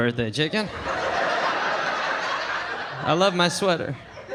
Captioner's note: audience laughing